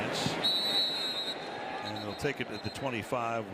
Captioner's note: whistle